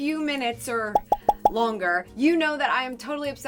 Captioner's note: gentle pops